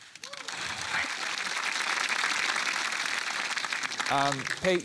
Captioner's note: applause